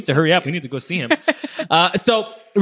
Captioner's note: laughing